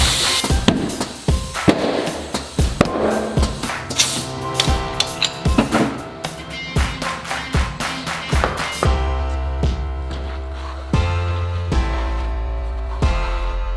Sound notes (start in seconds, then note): 1.6 metallic popping